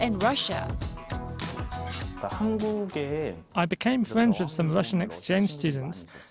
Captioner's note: Korean